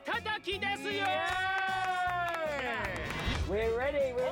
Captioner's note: speaking Japanese; cheering